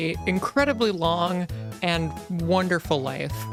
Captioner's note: none